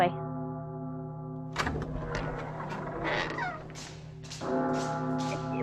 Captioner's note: DOOR OPENS, TWO SETS of FOOTSTEPS